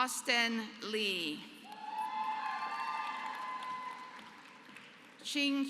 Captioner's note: applause